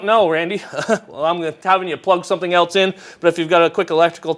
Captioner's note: laughs